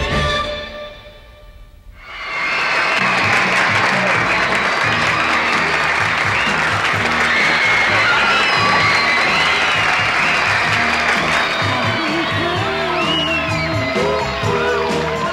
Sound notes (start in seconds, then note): 2.0 audience Screaming; 13.2 boo hoo